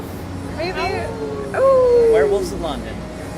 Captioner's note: howling